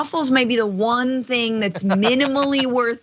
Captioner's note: laugh